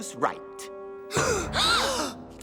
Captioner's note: gasping